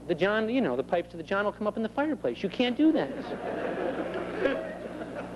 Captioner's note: laughter